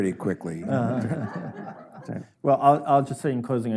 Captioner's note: audience laughs